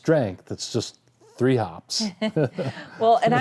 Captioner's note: laughter